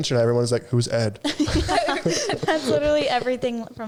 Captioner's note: all laughing